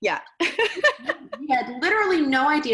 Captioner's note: laughing